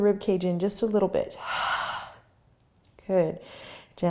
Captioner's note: exhaling